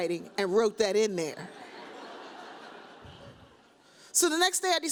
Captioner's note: audience laughs